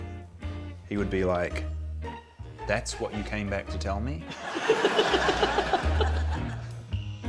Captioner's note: laughs